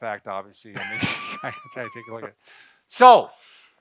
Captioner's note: both laughing